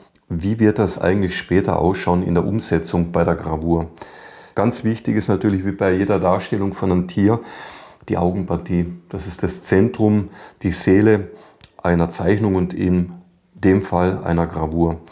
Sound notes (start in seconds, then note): none